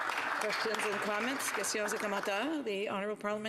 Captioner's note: some Applause